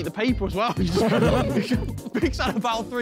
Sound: men laughing

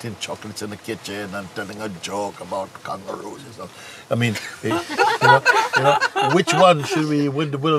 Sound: Lachen

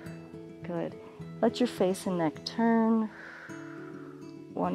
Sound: exhales

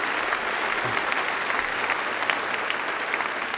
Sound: applause

